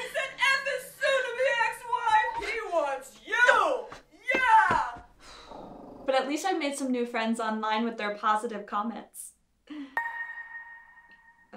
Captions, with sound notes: - He said F his soon to be ex-wife! He wants you!!! (defeated sigh) (dog growls) But at least I made some new friends online with their positive comments